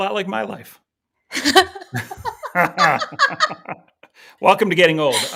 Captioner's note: both laughing